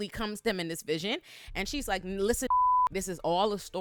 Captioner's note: beep